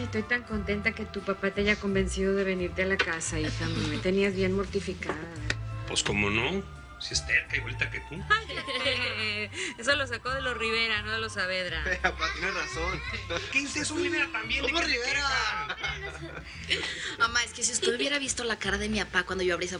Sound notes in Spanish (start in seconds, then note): 8.1 Risas; 14.9 Hablan al unísono